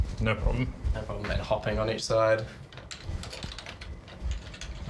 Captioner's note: keys tap